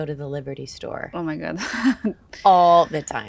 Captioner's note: chuckles